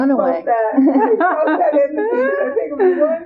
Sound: laughter

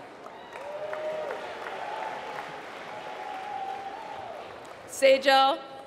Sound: applause

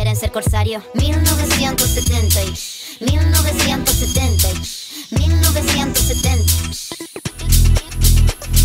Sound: shh

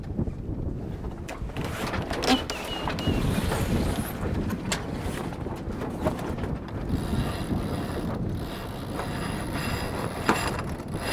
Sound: sounds of lines, sails, winches

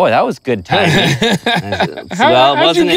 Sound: laughs

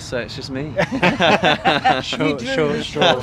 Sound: laughter

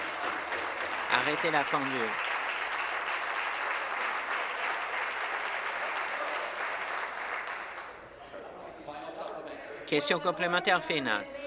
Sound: applause

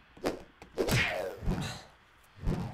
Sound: sighs

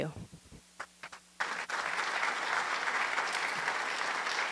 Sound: applause

